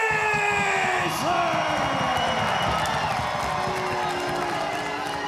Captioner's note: audience cheering; audience booing